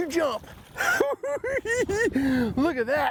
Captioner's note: laughs